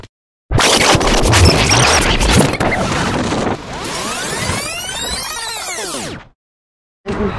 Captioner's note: rewind sound